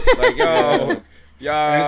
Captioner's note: laughing